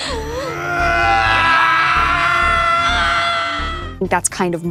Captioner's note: Billy and Eleven yelling